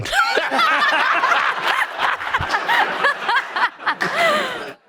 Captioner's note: all laughing